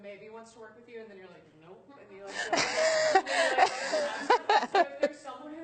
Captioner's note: laughter